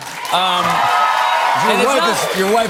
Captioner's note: cheers and applause